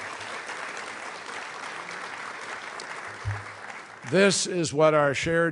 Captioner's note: applause